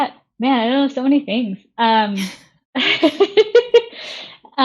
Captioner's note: laughing